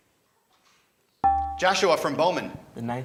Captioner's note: ding